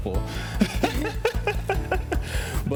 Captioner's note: both laugh